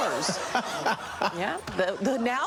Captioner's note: studio audience laughing